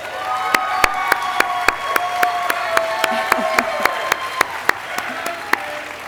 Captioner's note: audience applauding and cheering